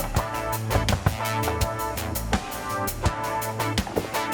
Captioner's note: car door rattles; knocks on window